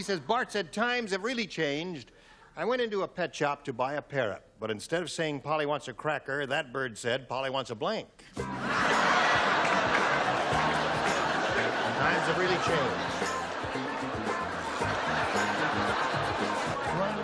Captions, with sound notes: B says Bart said, times have really changed. I went into a pet shop to buy a parrot, but instead of saying Polly wants a cracker, that bird said, Polly wants a blank. [laughter] [upbeat music] Times have really changed.